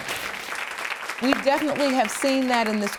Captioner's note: audience applauding